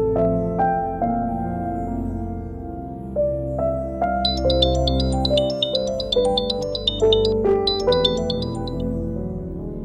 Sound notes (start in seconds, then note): 0.0 emotional music; 4.2 mobile phone chimes